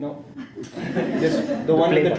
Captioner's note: laughing